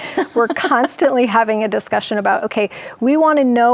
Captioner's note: laughs